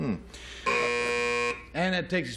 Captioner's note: buzzer